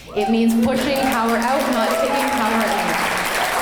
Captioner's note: clapping